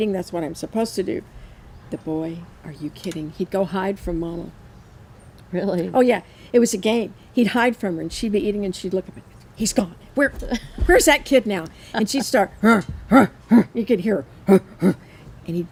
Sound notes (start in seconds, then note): 11.6 laughs; 14.4 grunting